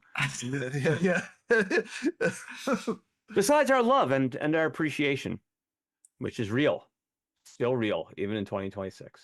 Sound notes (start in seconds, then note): 0.2 laughing